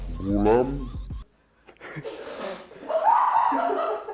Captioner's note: laughs in the background